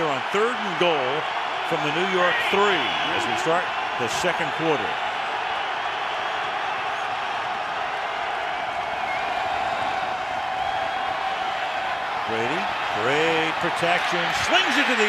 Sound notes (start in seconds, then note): 5.5 crowd cheering